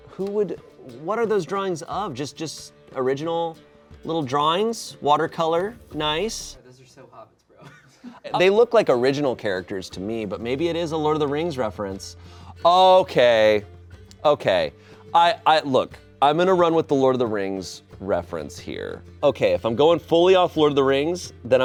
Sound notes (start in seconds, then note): 7.6 laughs